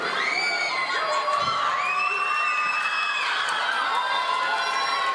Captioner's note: audience cheering